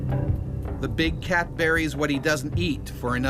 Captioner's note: voiceover